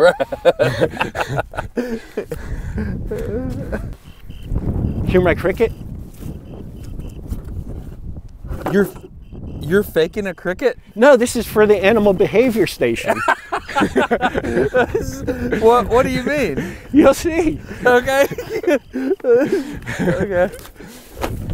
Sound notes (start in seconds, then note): 0.0 laughs; 6.4 quite cricket chirp sounds coming from the box; 13.6 laughs